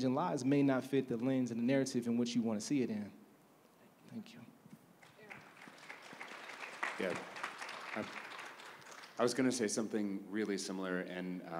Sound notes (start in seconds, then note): 5.0 applause